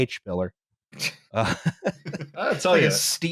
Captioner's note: laughs